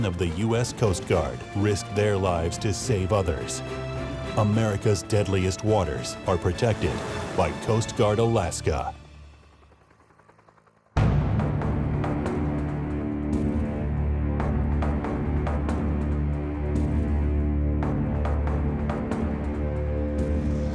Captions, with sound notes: of the U.S. Coast Guard risk their lives to save others. America's deadliest waters are protected by Coast Guard Alaska. (helicopter blades thumping) (suspenseful music)